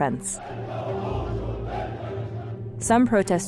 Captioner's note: chanting